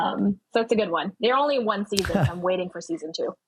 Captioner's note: laughing; laughs